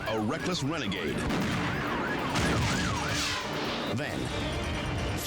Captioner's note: gun firing